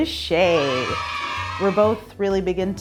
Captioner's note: kids cheering